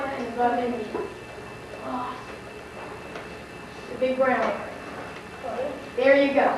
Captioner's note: student speaks softly